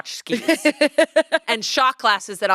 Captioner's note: laughs